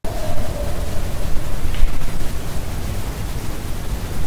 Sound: dog howling

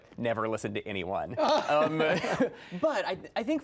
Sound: laughs

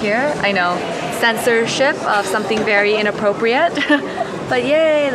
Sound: laughs

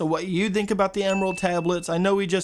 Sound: bell Dings

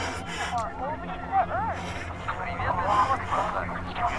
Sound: radio feedback

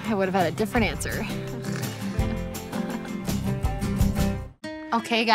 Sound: chuckles

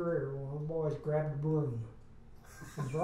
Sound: laughs

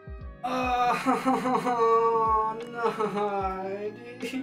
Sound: cries

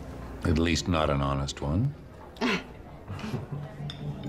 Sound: laughs

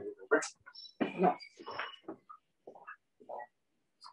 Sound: static

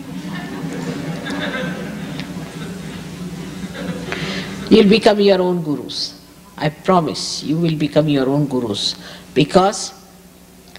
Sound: laughter

